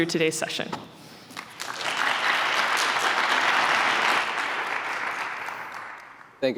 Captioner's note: applause